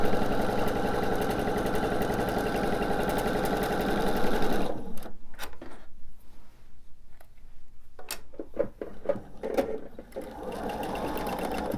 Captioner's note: sewing machine whirs